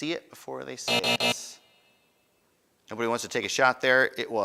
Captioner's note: buzzing